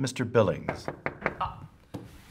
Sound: door knocking

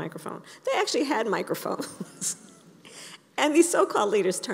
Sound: laughs

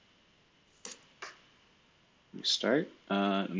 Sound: computer keyboard clicking

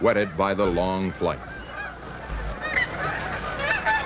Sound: goose sounds

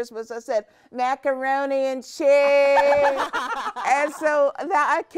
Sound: all laughing

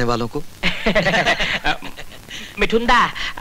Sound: laughs

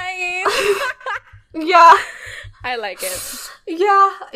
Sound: laughing

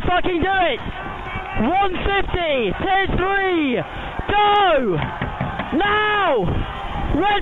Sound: smacking boat

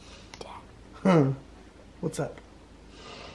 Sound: laughs

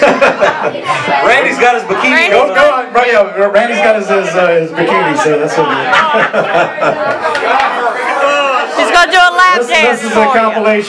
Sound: chatter; laughing

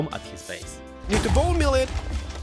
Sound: explosion; explosions repeat

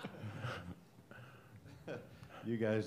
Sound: laughter

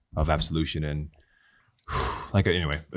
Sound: exhales

